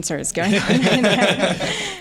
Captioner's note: laughter